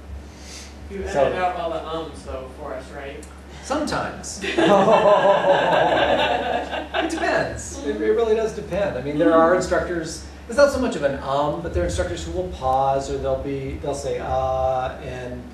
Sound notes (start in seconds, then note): 4.4 laughter